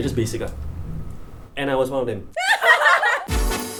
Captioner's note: laughter